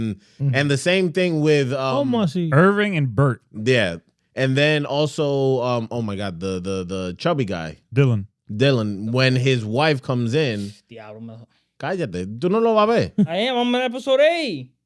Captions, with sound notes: the same thing with-- Oh, must he? Irving and Burt. Yeah, and then also, oh my God, the chubby guy. Dylan. Dylan, when his wife comes in, (Speaking Foreign Language)